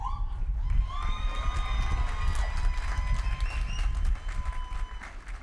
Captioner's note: applause